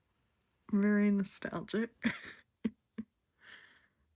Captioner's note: laughs